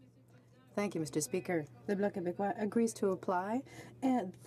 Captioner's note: speaking French